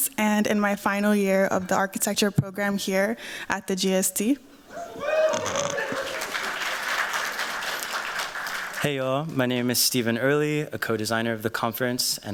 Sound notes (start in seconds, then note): 4.7 cheers, applause